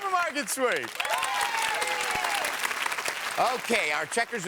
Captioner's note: audience cheers